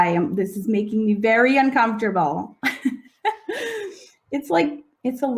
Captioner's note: laughing